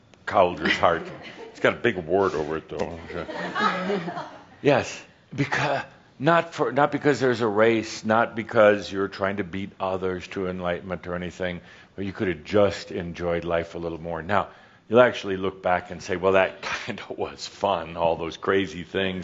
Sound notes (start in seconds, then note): 3.6 a few chuckles